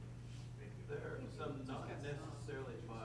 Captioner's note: voiceover